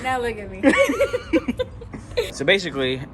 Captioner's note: both laughs